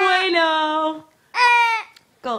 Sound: speaks in foreign language

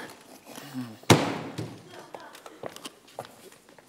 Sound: door slams shut

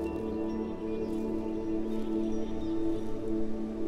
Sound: rustle

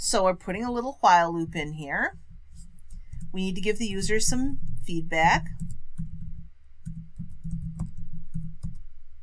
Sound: typing

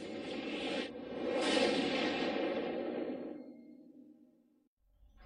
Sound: tornado stops

